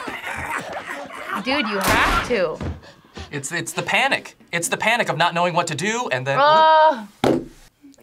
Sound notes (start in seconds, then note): 2.5 gun fires